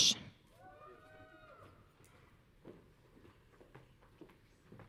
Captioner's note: audience cheering